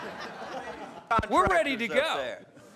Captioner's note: laughter